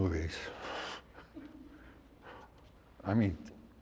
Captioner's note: laughs; person laughs